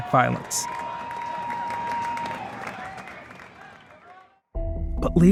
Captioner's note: crowd cheering